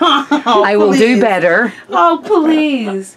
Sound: laughing

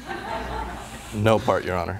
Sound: laughter

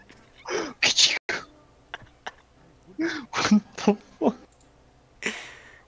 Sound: laughs

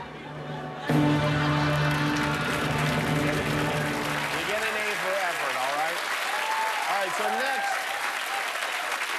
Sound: laughter; cheers and applause

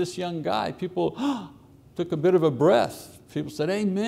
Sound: gasps

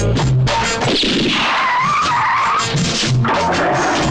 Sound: gunShot, Tire Screeching

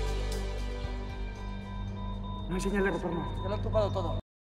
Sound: beeping

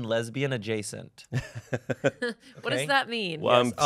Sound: laughs

